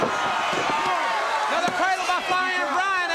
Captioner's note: crowd cheering